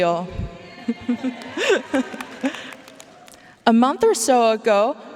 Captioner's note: audience cheering and applauding